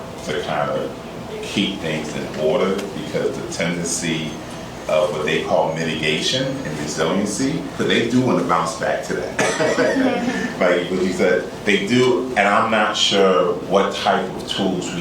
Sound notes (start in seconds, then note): 9.4 laughter